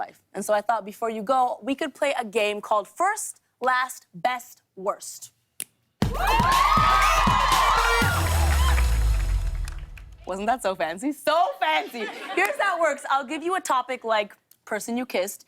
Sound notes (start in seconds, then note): 5.3 fingers click; 6.0 cheers and applause